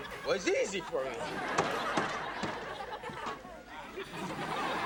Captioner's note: audience laughs